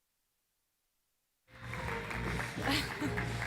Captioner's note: applause